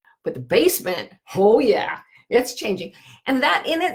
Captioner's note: none